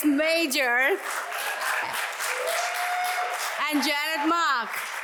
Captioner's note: audience applauds